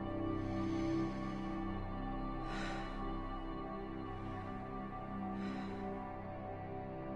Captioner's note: breathes deeply